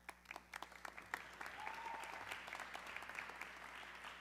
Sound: audience clapping

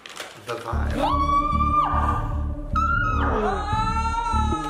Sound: everyone squealing

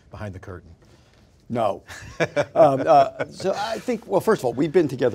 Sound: laughter

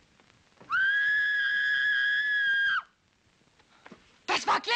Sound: Gladys screaming

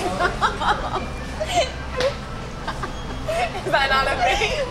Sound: laughing

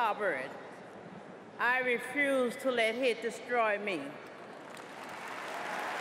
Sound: applause

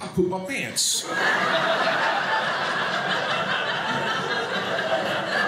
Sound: audience laughing

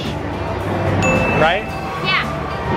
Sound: winking sound effect

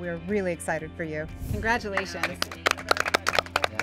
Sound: all applauding

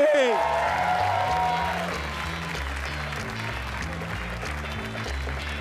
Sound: audience cheer and applaud

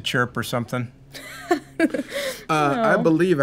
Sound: laughter

